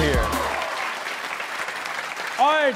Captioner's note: audience claps